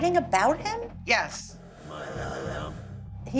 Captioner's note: mutters